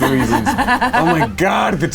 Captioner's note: laughing